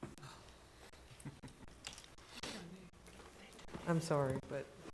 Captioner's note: board chatting quietly